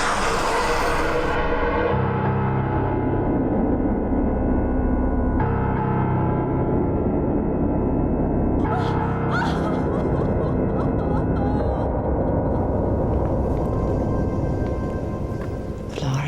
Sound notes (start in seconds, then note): 0.1 eerie music; 8.6 woman cries